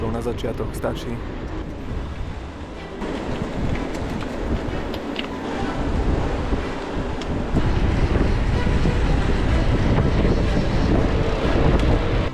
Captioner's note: wind blowing